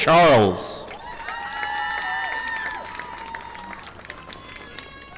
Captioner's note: audience applauding